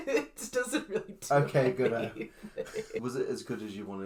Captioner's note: laughing